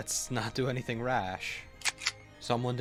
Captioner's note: gun slide racks